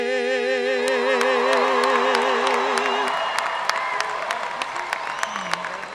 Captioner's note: audience cheering and applauding